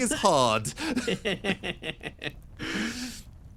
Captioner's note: laughing